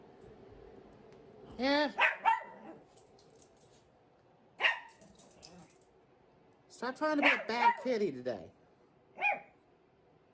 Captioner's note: Ella barking; Ella continues barking